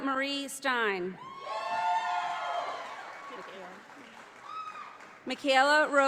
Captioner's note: audience applauding